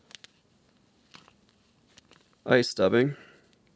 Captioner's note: packaging crinkling